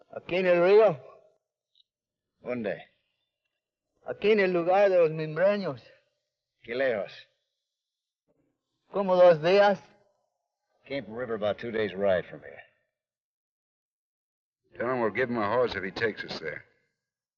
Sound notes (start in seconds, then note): 0.0 Ben speaks foreign language; 2.6 Ben speaks foreign language; 6.7 Ben speaks foreign language